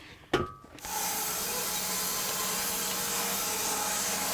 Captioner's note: wood clunking; saw whizzing